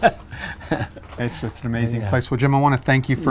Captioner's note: laughing